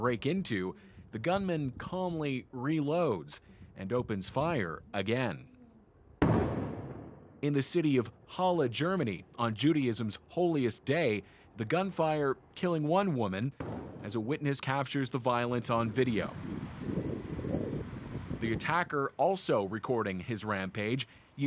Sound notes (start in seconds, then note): 10.3 gunshots